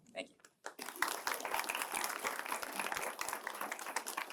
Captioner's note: applause